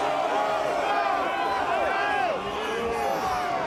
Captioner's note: crowd yelling